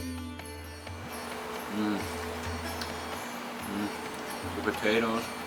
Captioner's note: eating food heartily